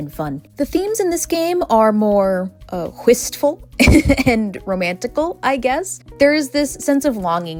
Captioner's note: haha